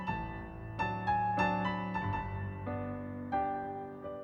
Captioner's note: none